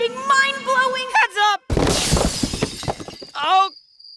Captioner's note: crashing